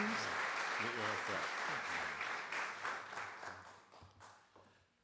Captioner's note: audience Applause